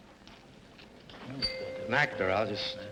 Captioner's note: bell rings